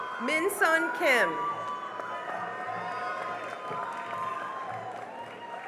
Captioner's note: cheering and applause